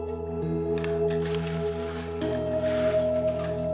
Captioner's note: blinds being drawn